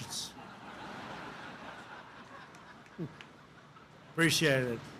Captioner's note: laughter